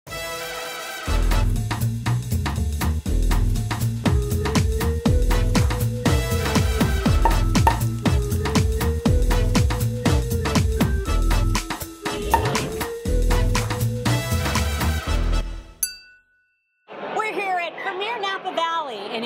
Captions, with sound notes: (upbeat music) (popping) (upbeat music) - We're here at Premiere Napa Valley,